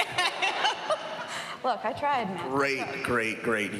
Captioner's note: laughing